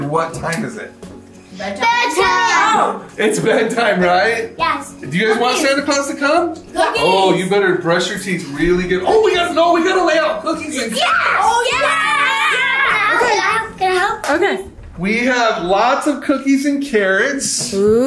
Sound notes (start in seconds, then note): 4.6 chuckles; 10.9 children shout